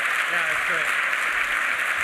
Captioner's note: applause